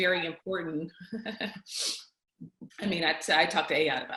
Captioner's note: chuckles